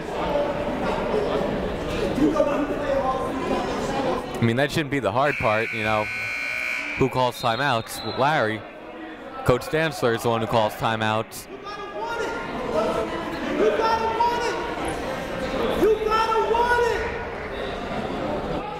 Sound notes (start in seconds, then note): 2.4 shouting; 5.2 buzzer ringing